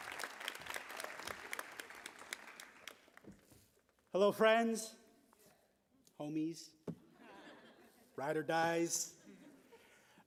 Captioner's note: applause